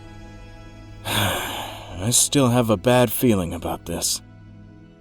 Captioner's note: sighs